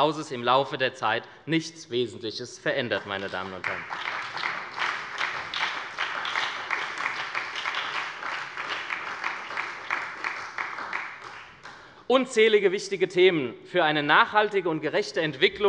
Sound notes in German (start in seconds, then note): 2.9 Beifall bei der SPD